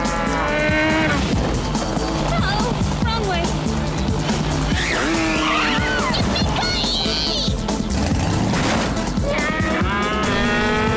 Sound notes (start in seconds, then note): 2.0 cows mooing